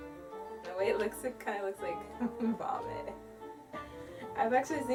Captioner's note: laughs